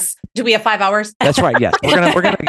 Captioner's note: laughs